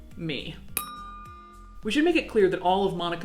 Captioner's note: bell ringing